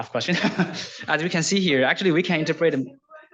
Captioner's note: laughs